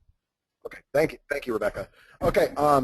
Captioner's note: voiceover